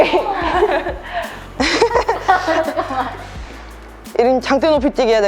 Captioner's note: laughter